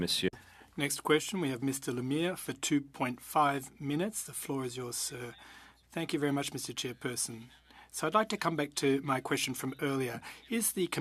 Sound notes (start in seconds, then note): 3.0 speaking French